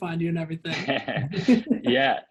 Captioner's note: both laughs